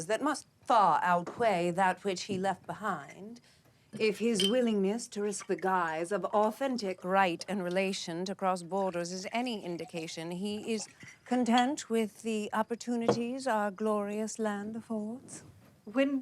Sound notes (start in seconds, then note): none